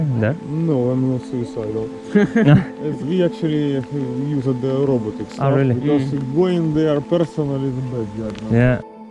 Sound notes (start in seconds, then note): 2.1 laughter